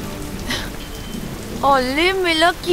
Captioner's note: Gauravi laughs